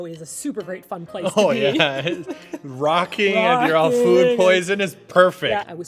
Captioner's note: laughing